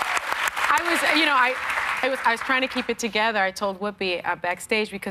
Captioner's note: cheers and applause